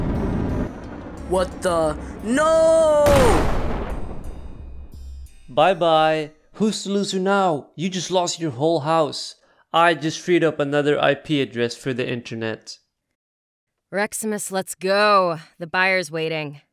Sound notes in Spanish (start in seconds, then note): 3.5 explosión